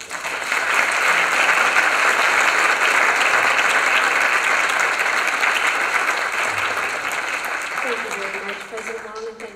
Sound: applause

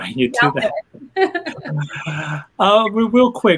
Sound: laughing

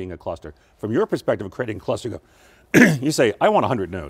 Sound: coughs

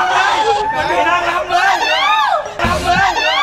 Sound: screams

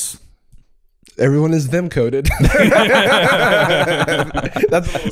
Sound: all laughing

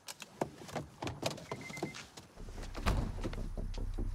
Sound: door clicks

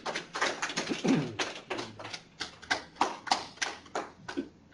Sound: laughs; applause

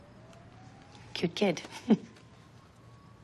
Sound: chuckles

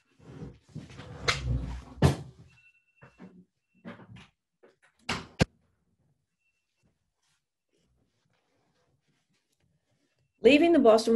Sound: silence

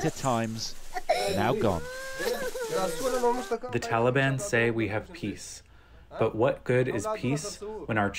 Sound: through translator

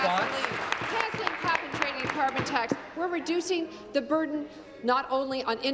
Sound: applause

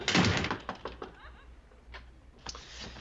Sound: knocking

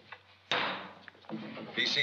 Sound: bang

